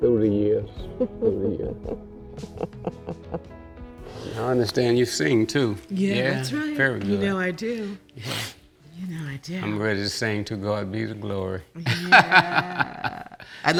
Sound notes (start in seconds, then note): 2.6 laughing; 11.8 laughing